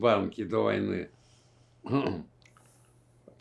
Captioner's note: clears throat